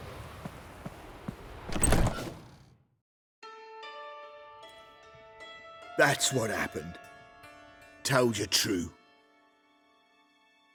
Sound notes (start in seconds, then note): none